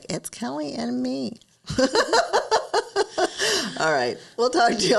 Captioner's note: laughs